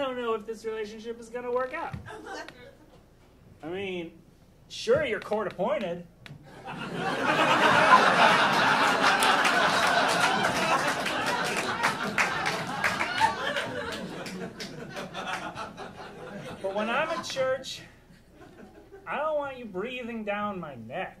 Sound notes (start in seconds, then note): 8.4 audience laughing